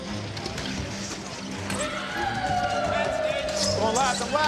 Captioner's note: whooping